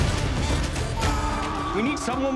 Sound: yells

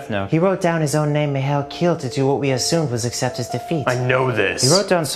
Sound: none

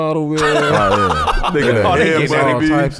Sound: laughs

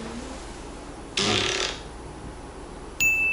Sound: fart♥

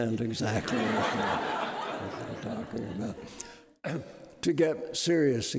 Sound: audience laughing

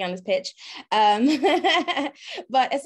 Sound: laughter

